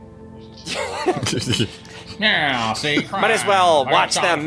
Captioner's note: laughing and indistinct chatter